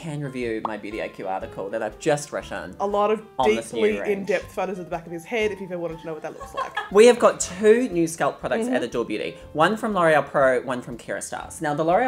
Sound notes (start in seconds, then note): 6.4 team member laughs